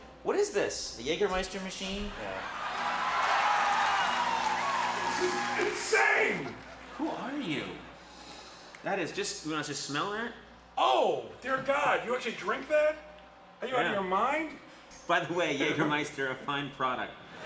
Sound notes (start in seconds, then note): 2.1 audience cheers and applauds; 7.9 sniffing; 17.3 audience laughs